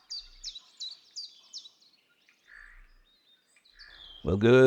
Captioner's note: birds chirping